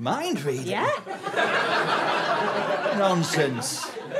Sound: audience laughter

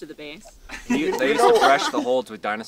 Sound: laughter

